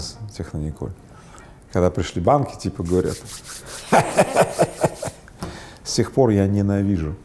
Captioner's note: rubbing their hands